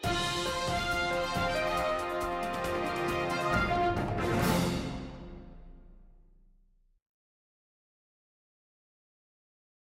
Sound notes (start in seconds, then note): 0.0 exit music; 5.0 silence